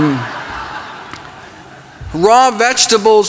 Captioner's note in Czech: Smích